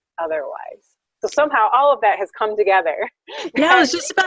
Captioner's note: laughs